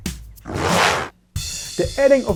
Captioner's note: unicorn makes angry noise